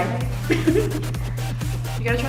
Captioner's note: laughs